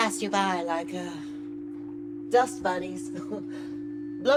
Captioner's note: laughs